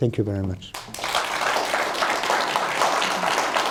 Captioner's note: applause